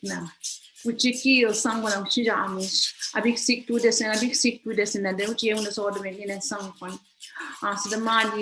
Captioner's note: foreign language